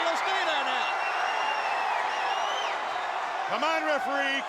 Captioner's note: crowd cheers